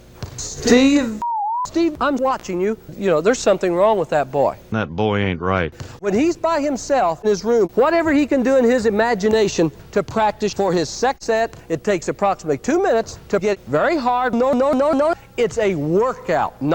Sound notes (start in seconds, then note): none